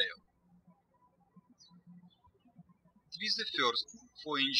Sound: birds chirping

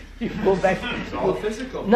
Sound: laughter

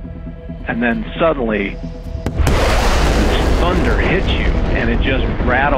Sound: jet engine

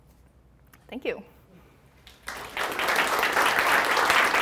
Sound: applause

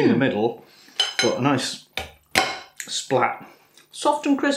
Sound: splat

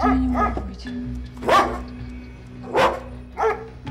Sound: dog barking

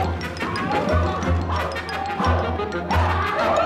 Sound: yelling and barking

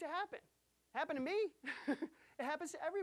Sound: chuckling

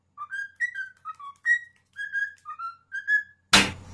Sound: bird whistling song; loud explosion; loud peck

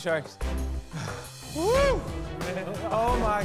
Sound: sighs

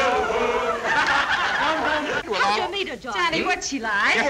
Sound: colleagues cheer

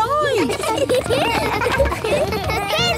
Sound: laughter

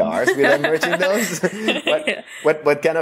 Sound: laughs

